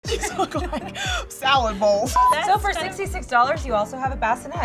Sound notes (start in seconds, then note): 0.0 laughing; 2.1 beeping